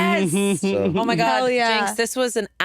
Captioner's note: Jinkx chuckles